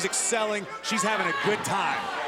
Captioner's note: crowd chatter; crowd cheering